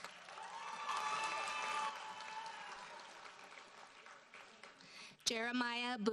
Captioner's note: audience cheers and applauds